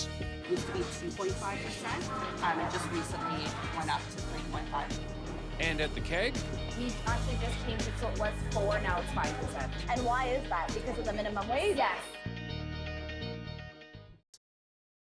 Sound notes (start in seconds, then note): 9.0 servers and reporter talking